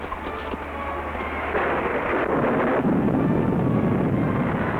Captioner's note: tense music; volcano blasting